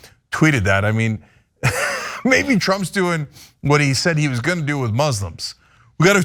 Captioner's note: laugh